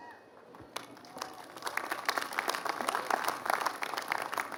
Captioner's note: applause